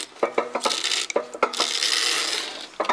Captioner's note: clunking